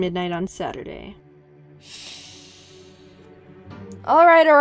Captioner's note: inhales